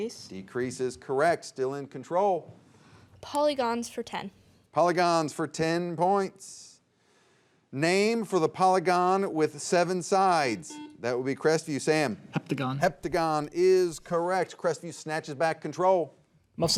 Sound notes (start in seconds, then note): 10.6 buzzer beeps